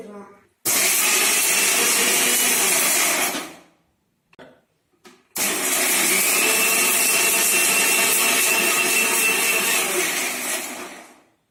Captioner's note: mixer noise